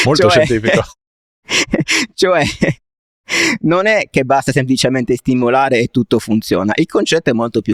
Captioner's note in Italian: risate